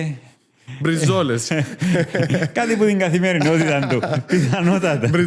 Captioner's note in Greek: γέλια